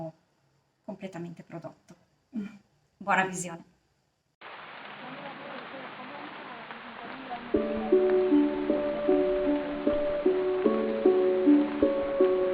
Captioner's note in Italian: Applauso